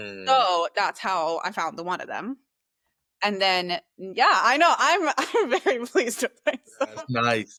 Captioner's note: laughs